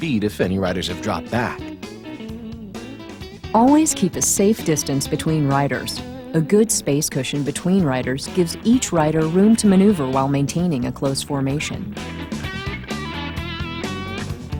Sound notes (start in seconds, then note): 3.8 voiceover